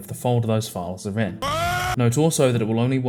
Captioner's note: screams